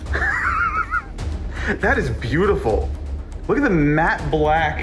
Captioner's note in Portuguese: riso ofegante